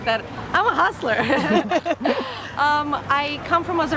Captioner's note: both laugh